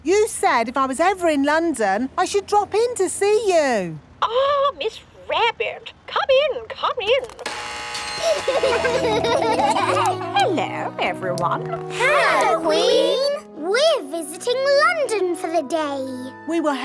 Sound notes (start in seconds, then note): 7.4 gates buzzing; 8.1 kids laughing